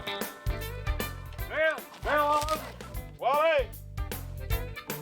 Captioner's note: yelling; bluegrass music